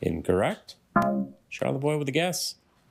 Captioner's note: bell dongs